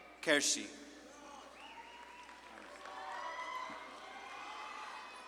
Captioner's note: audience claps and cheers